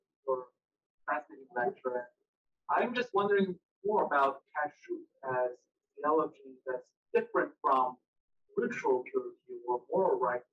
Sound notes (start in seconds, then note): 4.0 speaking in foreign language